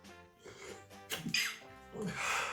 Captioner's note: sneeze